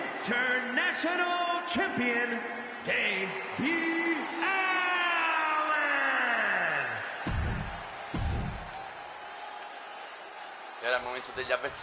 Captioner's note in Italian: urlo